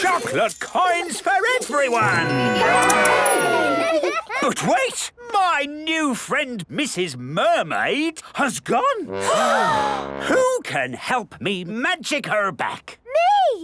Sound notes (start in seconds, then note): 9.1 all gasp